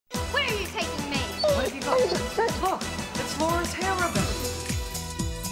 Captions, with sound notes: - Where are you taking me? (dog whimpering) - What have you got, Prince? Paul, it's Lauren's hair ribbon.